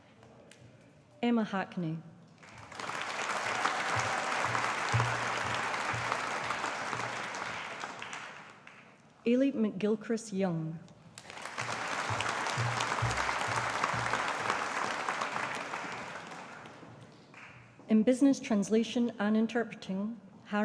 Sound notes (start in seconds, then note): 2.4 audience applauding; 11.2 audience applauding